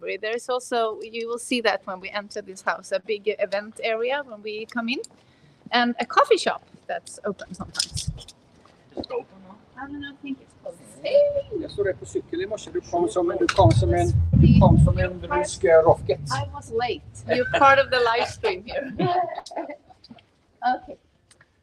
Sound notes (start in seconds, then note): 11.1 speaking in foreign language; 19.1 laughing